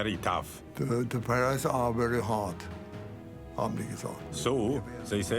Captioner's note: speaking in foreign language